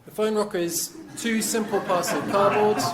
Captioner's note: crowd laughing